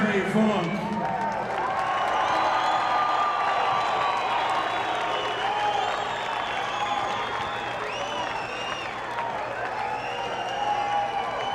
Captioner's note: applause